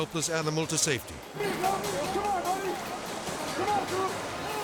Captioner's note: rescuers shouting